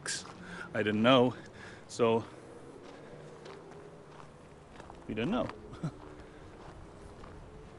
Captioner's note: laughs